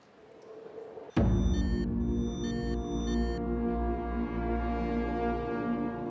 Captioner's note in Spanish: sonido electrónico